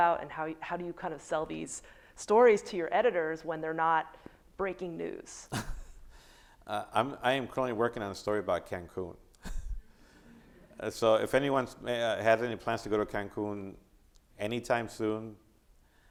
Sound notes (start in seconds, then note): 5.5 laughing; 9.4 chuckling; 9.7 audience applauding